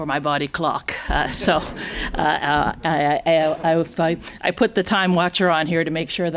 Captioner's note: chuckles